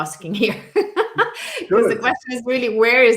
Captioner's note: laughs